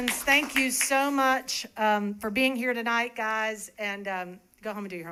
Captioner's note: applause